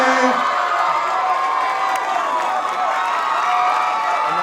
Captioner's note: cheering